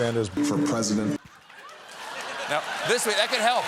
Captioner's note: applause